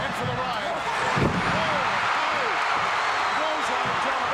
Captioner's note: audience cheering